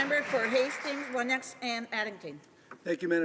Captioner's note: applause